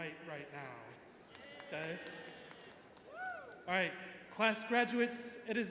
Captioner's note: graduates chattering